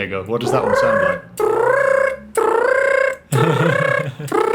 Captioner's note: trills; chuckles